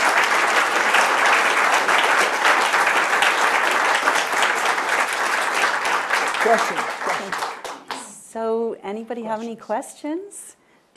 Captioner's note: applause